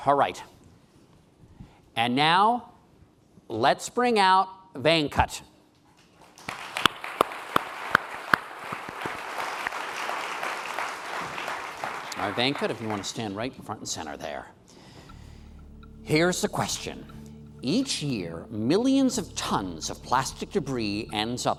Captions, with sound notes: Alright, and now let's bring out Venkat. (applause) Venkat, if you wanna stand right front and center there. Here's the question. Each year millions of tons of plastic debris ends